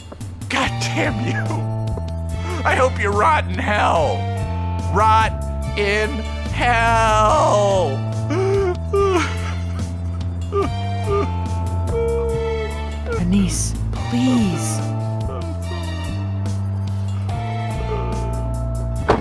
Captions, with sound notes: Goddamn you... I hope you rot in Hell. Rot in HELL! (sobbing) Annise, please.